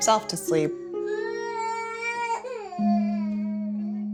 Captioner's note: crying